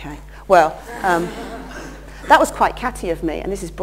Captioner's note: laughter